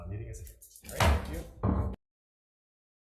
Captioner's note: gavel bangs